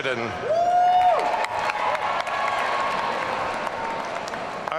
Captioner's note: audience cheering